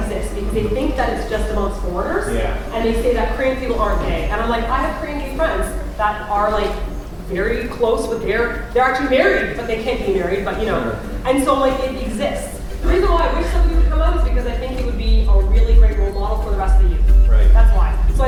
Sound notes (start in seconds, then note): none